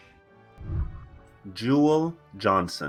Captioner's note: whooshing